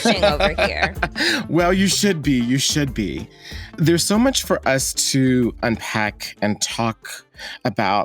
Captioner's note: laughs